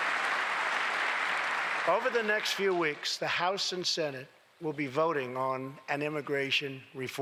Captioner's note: applause